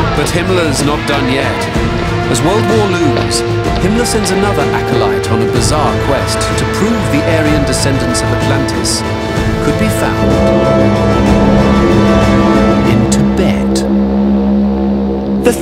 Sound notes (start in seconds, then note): 10.8 dramatic music; 10.8 horns blaring